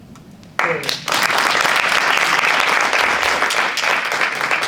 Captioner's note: audience applauding